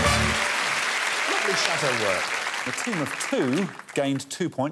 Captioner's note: applause